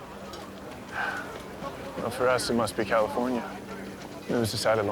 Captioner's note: laughs; sighs